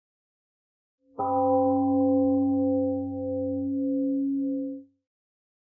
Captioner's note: temple gong rings and fades